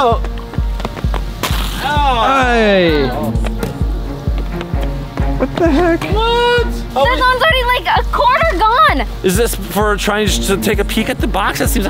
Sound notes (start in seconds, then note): 0.1 footsteps; 1.6 groaning; 1.6 rustling